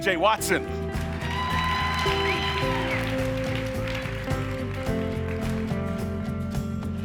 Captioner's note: audience cheering and applauding